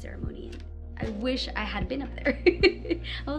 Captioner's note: laughter